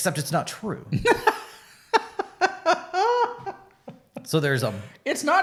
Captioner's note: laughs